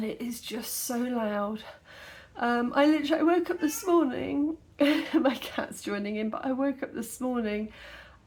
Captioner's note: meow